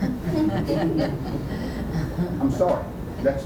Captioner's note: laughter